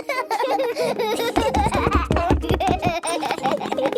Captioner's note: both laughing